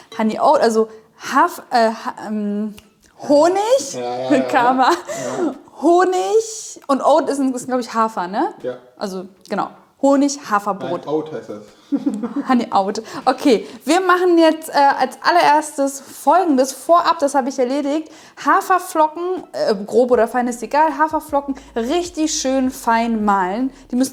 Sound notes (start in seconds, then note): 11.8 giggling